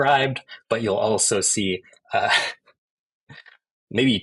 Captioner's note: chuckles